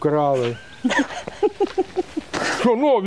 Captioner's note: laughing